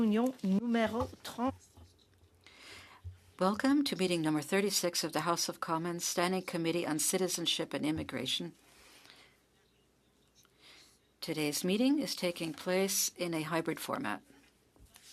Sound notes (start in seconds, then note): 5.8 speaking French